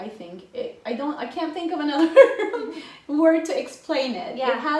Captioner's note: laughing